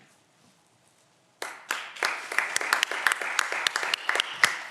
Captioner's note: audience applause